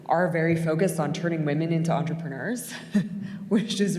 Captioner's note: chuckles